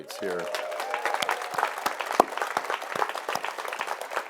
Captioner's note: audience applauds